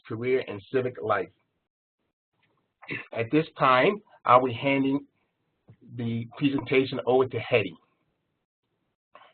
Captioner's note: cough